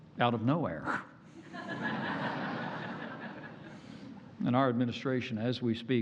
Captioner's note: laughter